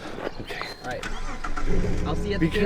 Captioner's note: car starting